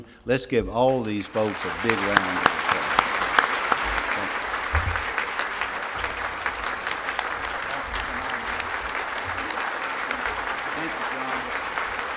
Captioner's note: applause